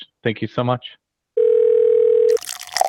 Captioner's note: phone rings; drink flowing